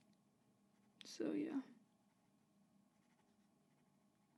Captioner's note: growly-ish wishper